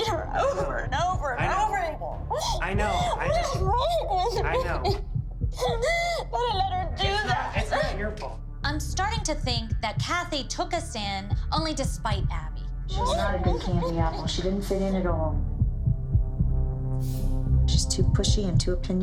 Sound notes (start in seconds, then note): 2.3 crying